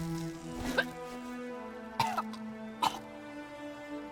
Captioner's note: Crystel coughs